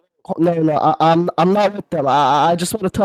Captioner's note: stutters